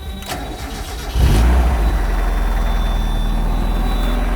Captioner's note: car engine starts